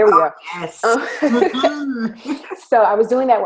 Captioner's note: laughing